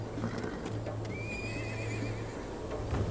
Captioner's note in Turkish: At kişneme sesi